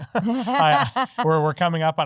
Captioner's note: laughing